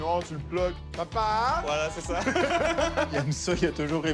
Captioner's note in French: rires